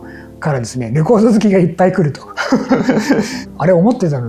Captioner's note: laughs